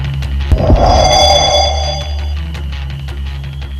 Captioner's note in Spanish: Sonido de teletransportacion